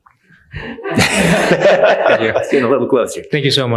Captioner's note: attendees laughing